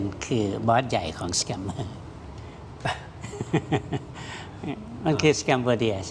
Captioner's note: laughter